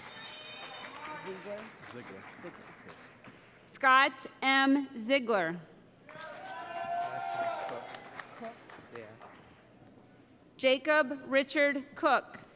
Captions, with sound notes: [ Cheering ] Scott M. Ziegler [ Cheering ] Jacob Richard Koch